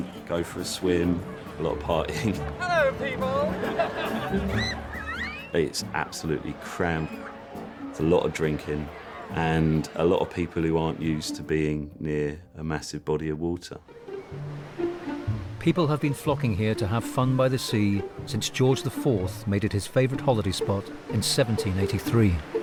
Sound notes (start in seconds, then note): 4.8 crowd shrieking